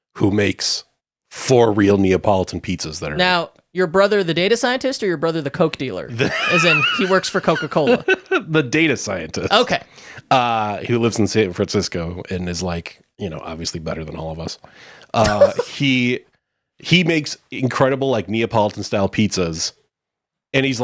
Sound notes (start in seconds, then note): 6.1 chuckling; 15.1 chuckles